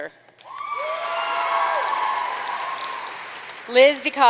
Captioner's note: audience cheering and applauding